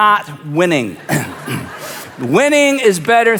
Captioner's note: audience laughs